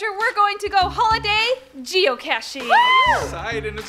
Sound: cheering

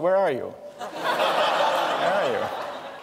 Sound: laughter

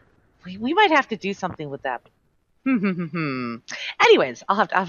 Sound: humming

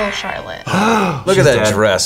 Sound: both gasp

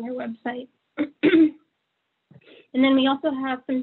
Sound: clears throat

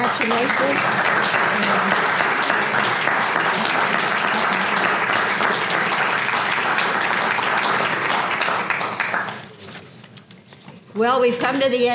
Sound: applause

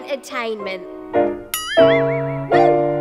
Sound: boing!

